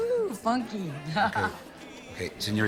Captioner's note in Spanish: Risas